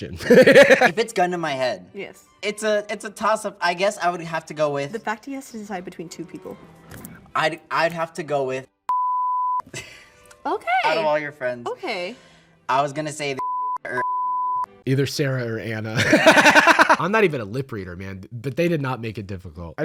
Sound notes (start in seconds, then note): 16.0 laughs